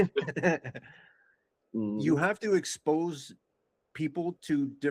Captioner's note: both Laughing